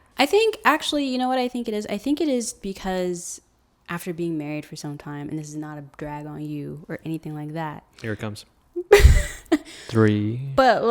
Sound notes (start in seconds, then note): 8.8 laughs